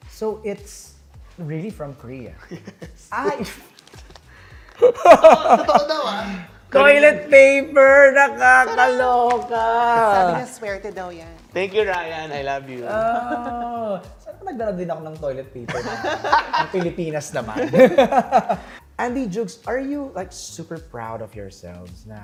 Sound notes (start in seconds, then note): 2.4 chuckles; 4.7 chuckles; 4.7 laughs; 13.1 giggles; 17.5 laughter